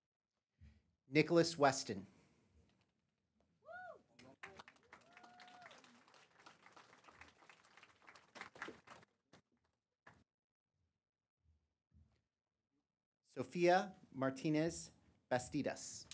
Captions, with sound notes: Nicholas Weston. [APPLAUSE] Sofia Martinez Bastidas.